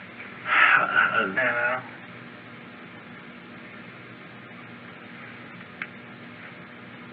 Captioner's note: sighs